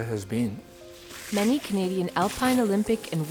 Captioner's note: skis through snow